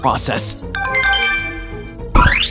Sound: ringtone

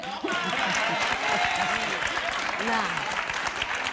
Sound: applause

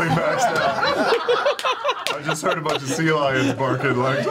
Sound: all laugh

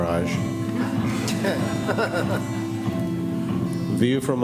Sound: laughter

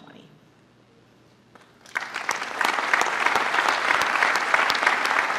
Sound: applause

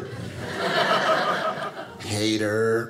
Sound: audience laughing

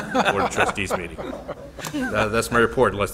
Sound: all chuckling

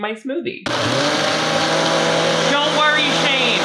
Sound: blender whirs

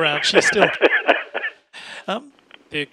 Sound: laughs

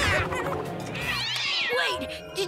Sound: yowling

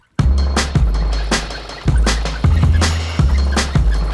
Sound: wheels squeaking

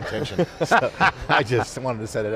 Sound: group laughing

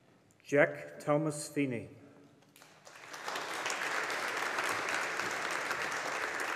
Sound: audience applauding

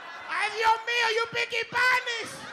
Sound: speaking Spanish

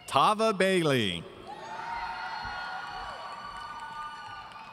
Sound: audience cheering

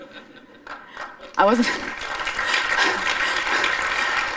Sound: applause

